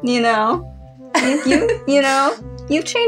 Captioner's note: laugh